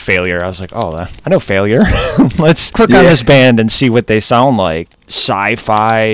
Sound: laughs

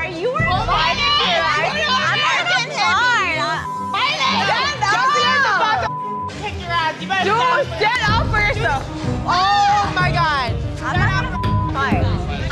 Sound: drunken shouting

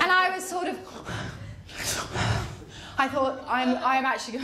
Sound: breathes heavily

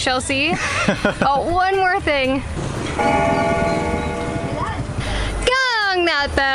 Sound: bell rings

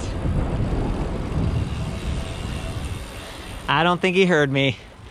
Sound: bicycle whirring

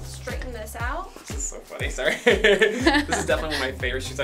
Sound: laughs

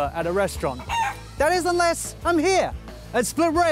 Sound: chicken clucks

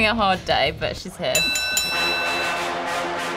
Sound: bell rings; dramatic music

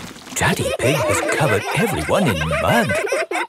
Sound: all laughing

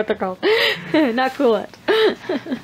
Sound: laughs

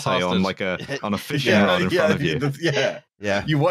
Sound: laughing

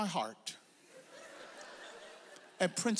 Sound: audience laughs

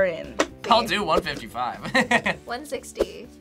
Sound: laughs

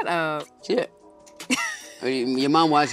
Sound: laughing

